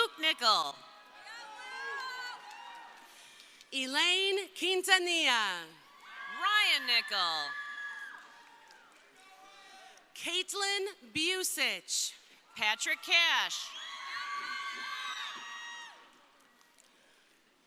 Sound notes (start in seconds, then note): 0.0 crowd cheering; 5.5 crowd cheering; 8.4 crowd cheering; 12.6 crowd cheering